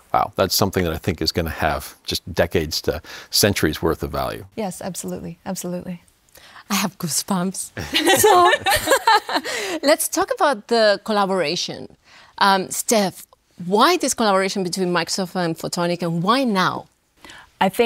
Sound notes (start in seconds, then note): 7.8 laughing